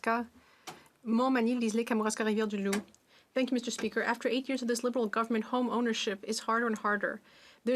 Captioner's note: speaking French